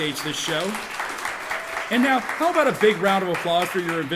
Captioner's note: audience applauding